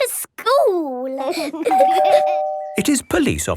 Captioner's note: door bell ringing